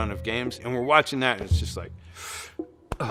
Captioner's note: breathes deeply